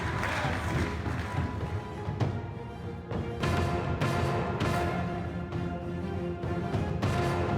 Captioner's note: speaking in French